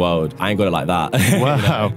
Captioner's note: laughs